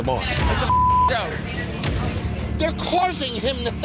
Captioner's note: beep